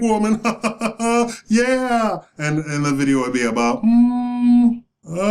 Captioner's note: clown laugh